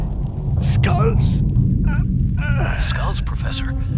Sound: groans

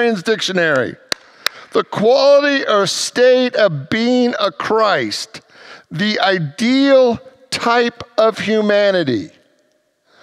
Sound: claps hands

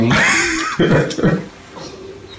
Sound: laughing

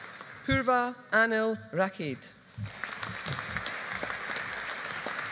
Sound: audience applauding

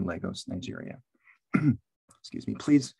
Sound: clears throat

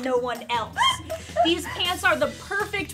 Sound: laughter

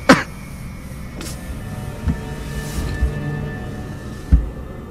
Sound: Omari coughs; ominous music

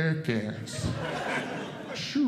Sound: audience Laughing

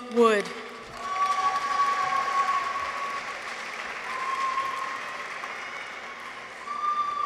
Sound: audience applauds; people cheer

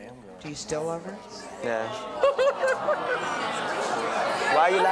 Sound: laughing

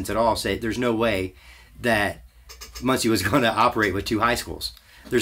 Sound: laughs to self

